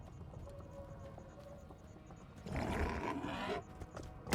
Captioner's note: growling